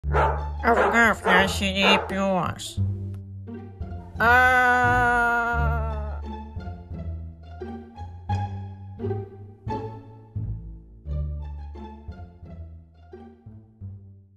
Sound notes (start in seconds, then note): 0.0 bark Bark; 4.2 scream of horror